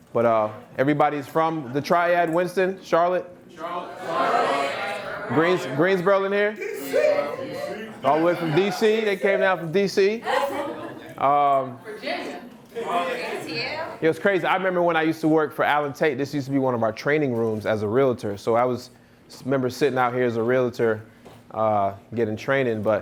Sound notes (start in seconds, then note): 3.5 audience murmuring